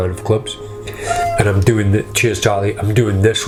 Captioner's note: cat meows